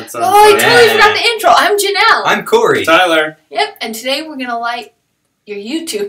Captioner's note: none